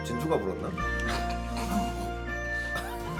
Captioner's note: laughing